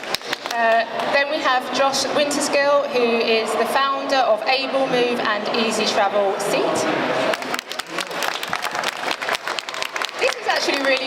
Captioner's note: applause